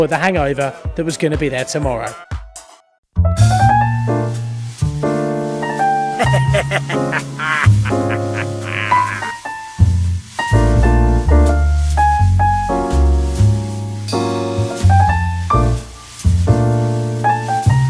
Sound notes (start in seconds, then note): 3.4 jazz music; 6.2 evil laughing